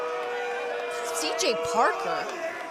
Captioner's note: cheers & boos